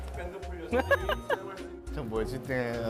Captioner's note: laughing, Going Crazy